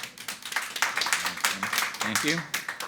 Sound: everyone applauding

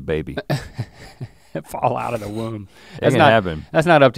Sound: chuckles

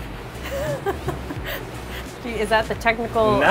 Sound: laughs

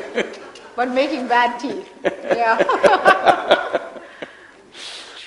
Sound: laughter

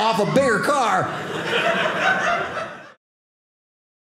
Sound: audience laughing

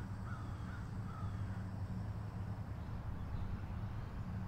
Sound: crow cawing

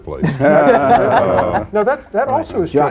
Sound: laughter

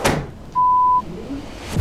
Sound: door shutting; beep

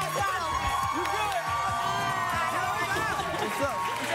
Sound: cheers and applause

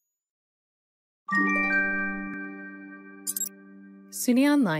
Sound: gentle electronic tones

